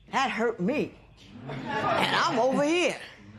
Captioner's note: laughter